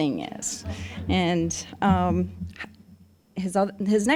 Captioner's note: audience chuckling